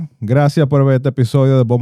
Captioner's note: speaking In Foreign Language